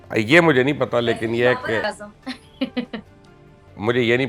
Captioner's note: laughs